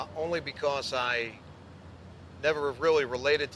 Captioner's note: none